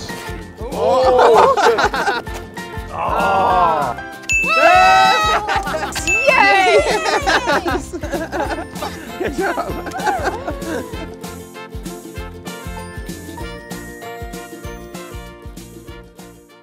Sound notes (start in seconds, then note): 1.0 laughter; 1.0 more laughter; 4.3 ding!; 4.3 cheers; 5.9 more cheering; 6.0 ding!